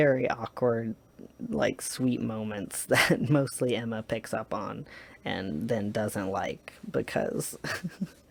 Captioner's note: laughs